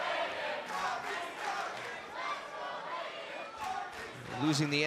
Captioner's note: fans chanting